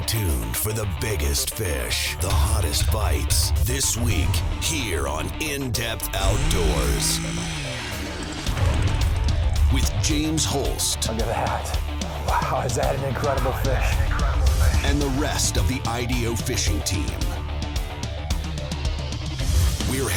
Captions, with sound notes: - [Voiceover] Stay tuned for the biggest fish, the hottest bites, this week, here on In Depth Outdoors. With James Holst. - [Voiceover] Look at that. Wow, is that an incredible fish. - [Voiceover] And the rest of of the IDO fishing team.